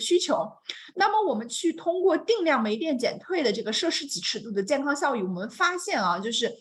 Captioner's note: continues speaking in Mandarin